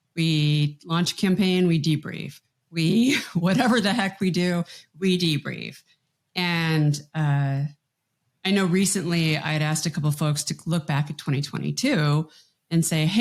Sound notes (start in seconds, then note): 3.3 chuckles